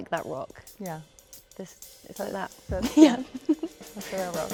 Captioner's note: laughs